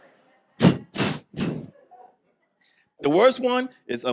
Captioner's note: sharp breathes